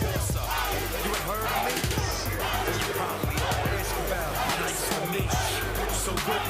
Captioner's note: fans chanting